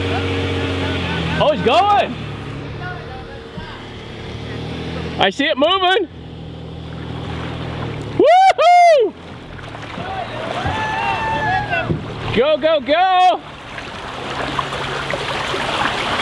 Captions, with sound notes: Oh, it's going! (people chatter) I see it moving! Woohoo! Go-go-go!